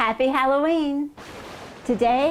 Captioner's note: thunder